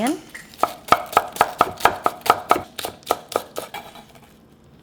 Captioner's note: chopping